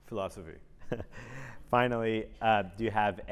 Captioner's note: laugh